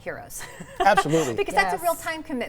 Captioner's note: laughs